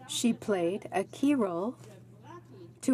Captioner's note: speaking French